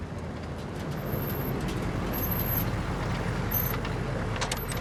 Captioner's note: car braking